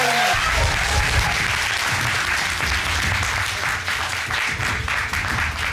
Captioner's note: applause